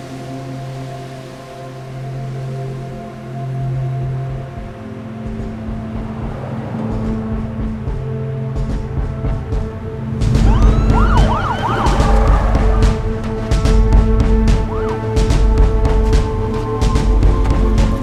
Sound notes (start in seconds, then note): 0.3 inspirational music continues; 5.5 dramatic music; 5.5 vehicle engines droning; 9.9 sires blaring; 11.3 dramatic music continues